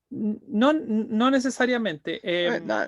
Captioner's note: speaking in Spanish